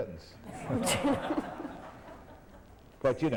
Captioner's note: laughter